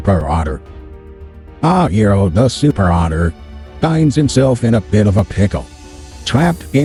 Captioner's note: voiceover